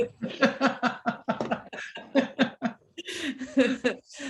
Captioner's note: laughter